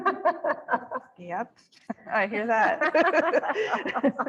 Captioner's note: laughter